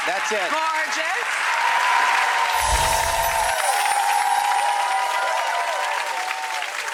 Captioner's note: audience applause; audience cheers